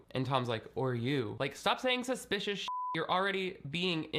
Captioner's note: beeping